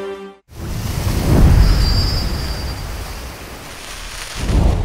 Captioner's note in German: Wellenrauschen